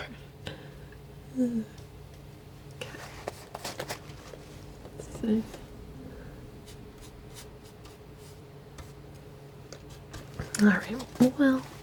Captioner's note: scratching